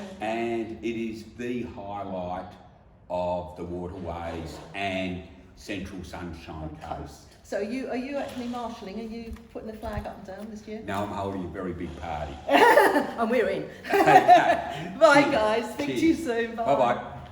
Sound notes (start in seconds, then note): 12.4 laughing